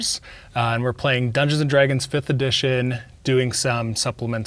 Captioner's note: none